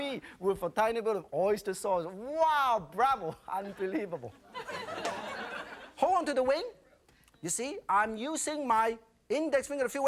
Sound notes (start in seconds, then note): 3.7 audience laughing